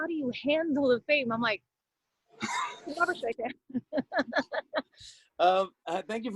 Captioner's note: laughter